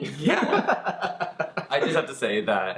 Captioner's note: laughs